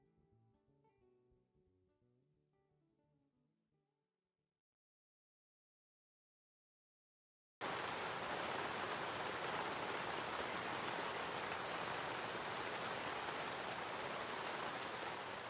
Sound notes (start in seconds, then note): 7.6 sound of heavy rain falling; 14.7 rain fades to nothing